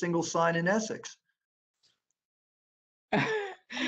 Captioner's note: laughter